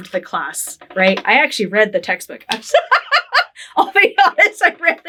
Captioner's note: laughing